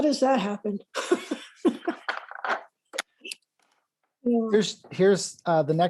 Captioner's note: laughs